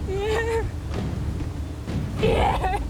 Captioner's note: marie sobs